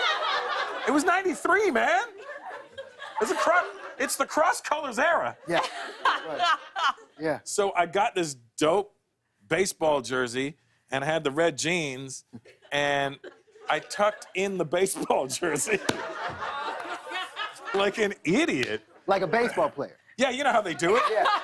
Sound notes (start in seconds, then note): 14.9 laughter